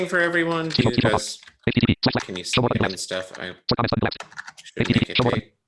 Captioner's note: voice screeching rapidly